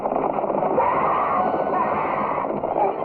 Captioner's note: screeching